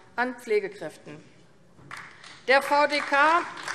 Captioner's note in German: Beifall AfD